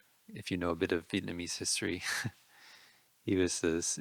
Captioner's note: laughing